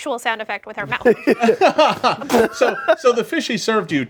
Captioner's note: group laughs